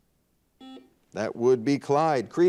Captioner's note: buzzer dings